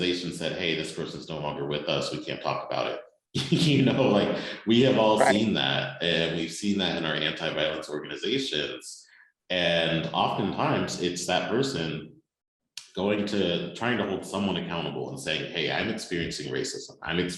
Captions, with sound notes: person is no longer with us. We can't talk about it." [chuckle] like we have all seen that. And we've seen that in our anti-violence organizations. And oftentimes it's that person going to...